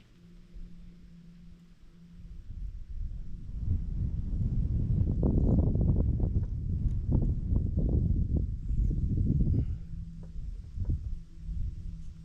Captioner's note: wind blowing